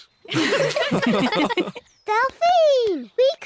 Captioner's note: all giggle